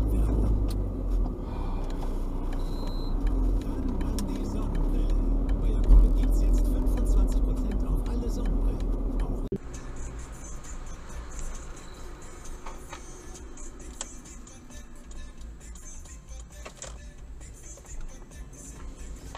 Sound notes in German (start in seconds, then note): 1.4 seufz